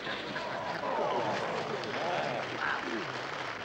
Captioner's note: crowd murmurs; audience applauds